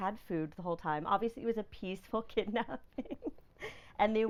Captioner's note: laughing